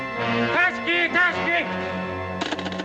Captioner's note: suspenseful music; speaking in Japanese; phone receiver clatters